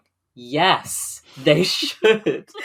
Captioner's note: laughing; laughs